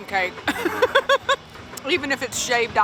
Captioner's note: laughing